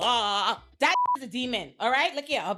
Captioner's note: beep